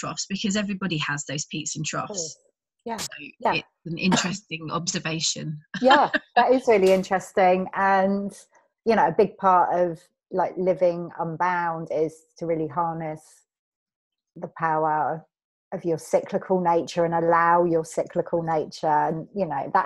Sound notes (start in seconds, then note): 4.1 laughs